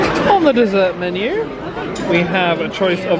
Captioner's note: none